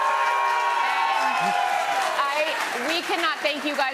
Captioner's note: cheers and applause